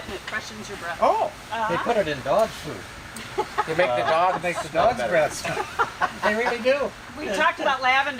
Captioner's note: laughter